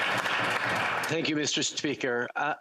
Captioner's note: applause